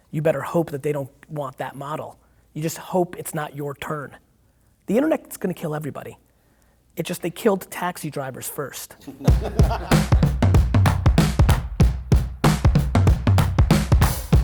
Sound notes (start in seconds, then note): 9.0 laughing; 9.2 upbeat music